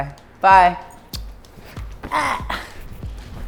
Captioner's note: kiss